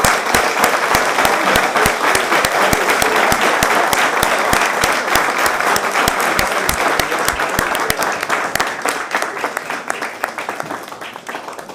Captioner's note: applause